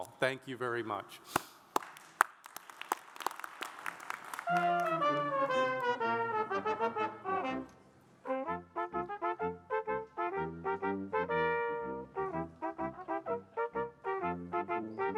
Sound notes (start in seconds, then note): 1.6 audience applauds; 4.3 upbeat brass band music